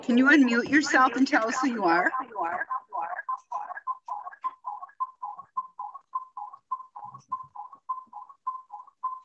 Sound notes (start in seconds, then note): 3.1 echoing